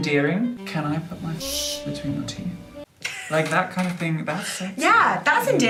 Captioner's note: laughter